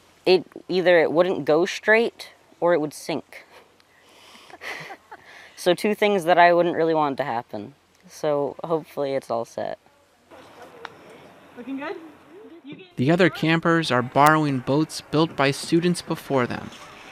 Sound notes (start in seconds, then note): 4.5 both chuckling